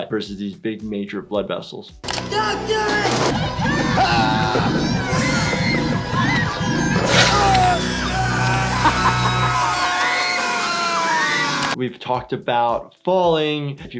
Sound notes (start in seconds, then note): 4.1 screaming; 5.6 evil chuckling